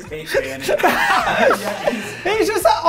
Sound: laughs

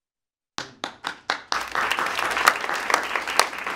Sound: applause

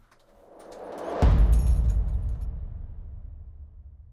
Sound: whooshing

